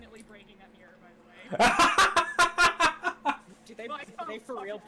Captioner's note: shrill laughter